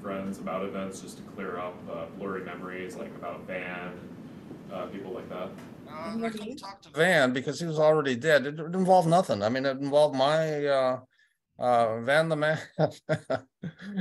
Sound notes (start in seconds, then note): 12.5 laughter